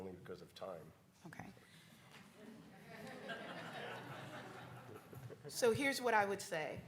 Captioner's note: audience chuckles